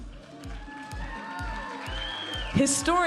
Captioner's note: audience applauding and cheering; upbeat music